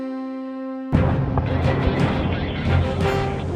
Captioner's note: explosion